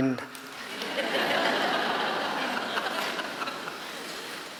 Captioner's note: laughing